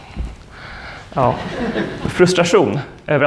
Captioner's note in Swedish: skratt